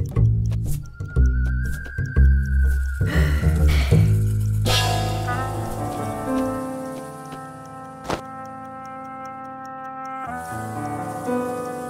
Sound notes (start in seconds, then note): 3.0 sighs tiredly